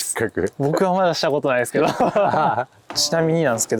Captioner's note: laughs